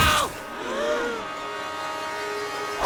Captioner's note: server players gasp aloud